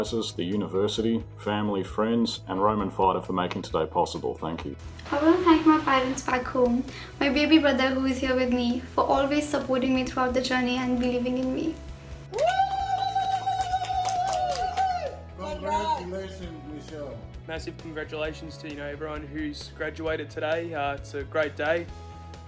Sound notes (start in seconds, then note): 12.3 clapping